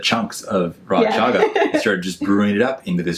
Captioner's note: laughs